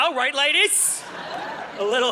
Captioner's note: audience laughing